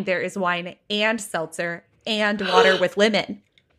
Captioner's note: gasps